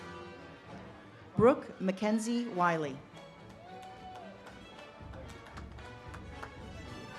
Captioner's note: audience cheers and claps